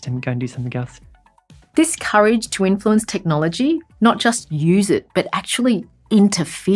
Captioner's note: voiceover